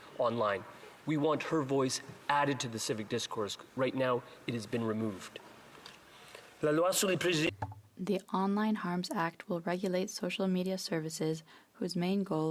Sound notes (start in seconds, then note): 9.8 speaking French